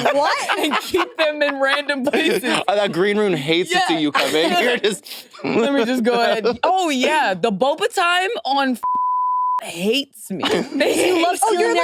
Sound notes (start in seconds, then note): 8.8 beep